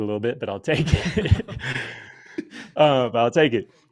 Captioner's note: laughs